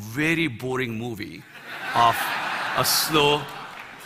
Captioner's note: Laughter; 笑聲